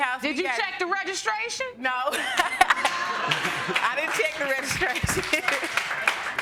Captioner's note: laughter; laughs